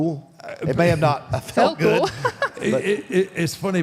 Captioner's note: laughs